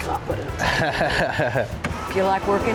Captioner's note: chuckling